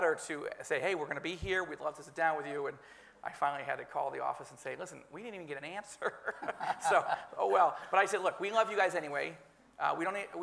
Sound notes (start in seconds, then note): 6.1 laughs